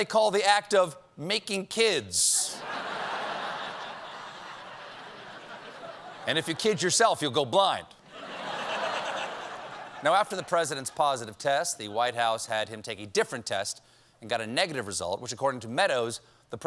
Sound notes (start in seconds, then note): 5.2 laughter